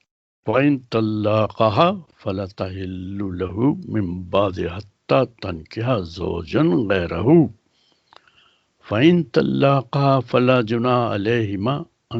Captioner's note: recites in Arabic